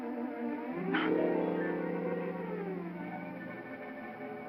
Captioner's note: ominous music; blowing sound; ominous music